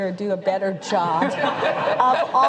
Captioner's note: laughter